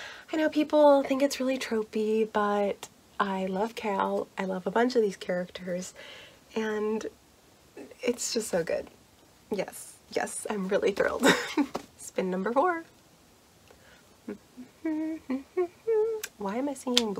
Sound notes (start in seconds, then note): 14.2 vocalizes